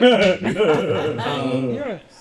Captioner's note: laughter